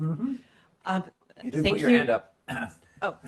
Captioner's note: laughs